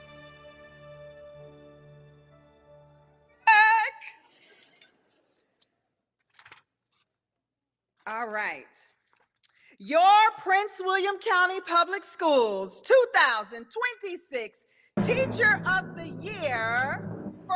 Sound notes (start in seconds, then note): 0.1 bright music fades; 5.0 audience chuckles